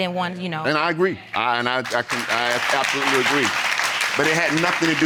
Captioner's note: audience applaud